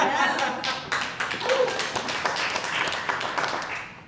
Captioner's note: audience Applauding